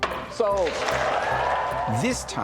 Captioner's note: gavel bangs; audience cheering